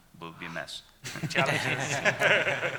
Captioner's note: laughing